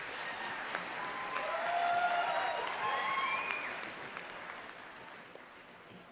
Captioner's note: audience cheering and applauding